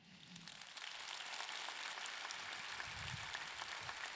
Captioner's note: audience clapping